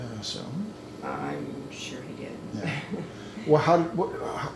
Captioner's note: laughing